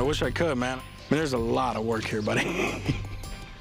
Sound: laughs

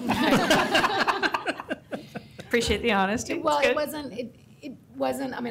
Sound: laughter

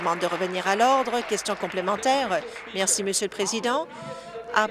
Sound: applause

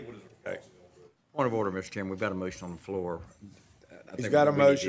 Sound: off microphone

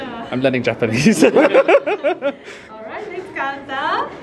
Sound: laughs

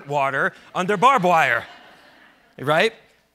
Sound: audience laughs

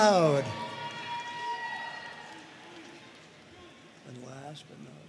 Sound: audience cheering and applauding

